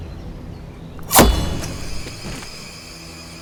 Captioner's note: knife whooshes